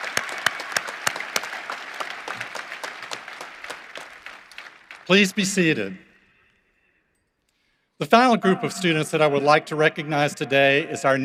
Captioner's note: applause